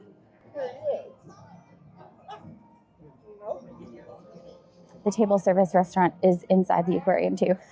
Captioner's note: people chattering